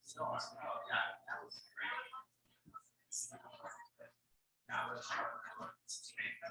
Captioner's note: people chattering indistinctly continues